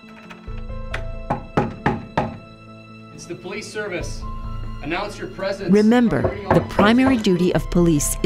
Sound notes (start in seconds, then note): 1.0 knocking at door; 6.1 knocking